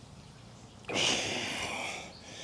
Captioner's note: exhales